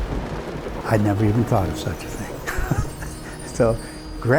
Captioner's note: chuckles